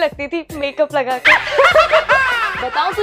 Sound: laughing

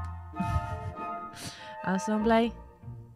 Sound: chuckles

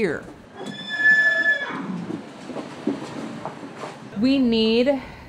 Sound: horse whinnying

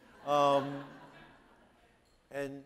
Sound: audience laughing

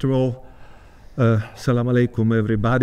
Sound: speaking Arabic

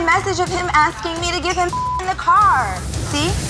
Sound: beep sound

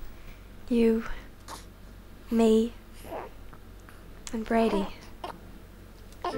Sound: Brady coos

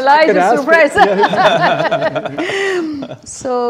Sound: all laughing

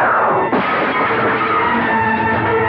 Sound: glass Shatters

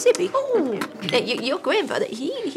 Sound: recorder beeps

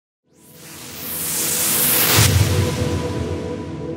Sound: wooshing

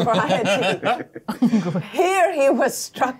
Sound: co-hosts laughing

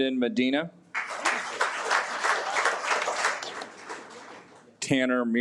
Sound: audience applauds

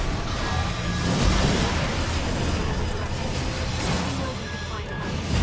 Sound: robot gun buzzing and whirring

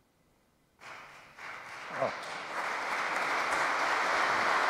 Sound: audience applauding

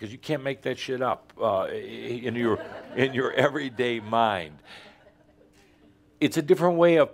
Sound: a few chuckles

